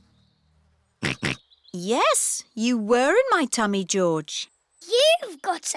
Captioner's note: snorts